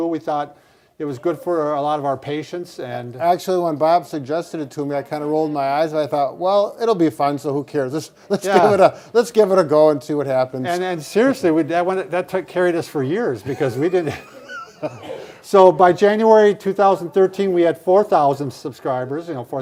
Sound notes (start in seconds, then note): 8.5 chuckling; 13.4 both laughing